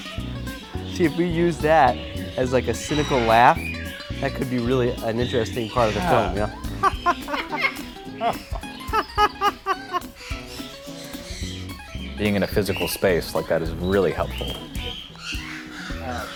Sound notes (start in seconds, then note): 7.1 parrot chirps twice